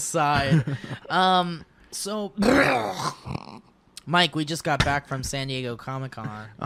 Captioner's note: laughs; disgusting throat noises